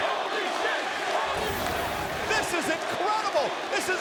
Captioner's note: crowd chants "Holy shit"